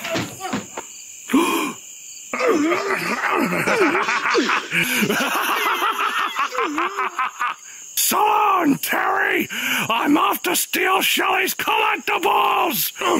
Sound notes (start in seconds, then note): 1.2 Terry gasps; 2.3 all grunting; 2.4 Karson laughing maniacally; 12.9 Karson cackling evilly